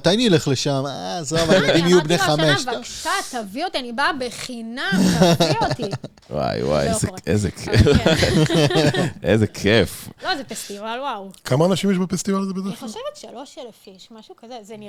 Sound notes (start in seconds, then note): 4.8 laughter; 9.8 cough